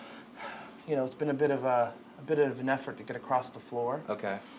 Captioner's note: exhaling deeply